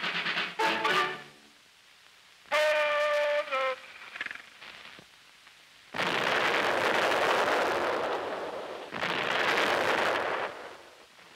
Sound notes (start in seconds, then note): 2.4 explosion; 2.4 shouting